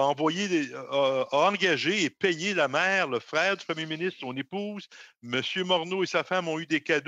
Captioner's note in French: voix de l'interprète